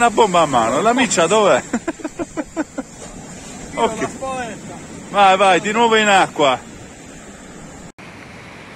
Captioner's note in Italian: Risate